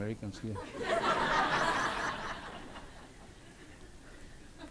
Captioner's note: audience laughs